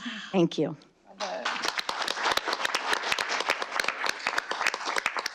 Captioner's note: audience applauding